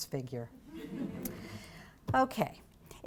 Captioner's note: laugter